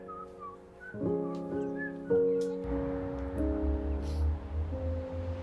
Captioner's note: whistling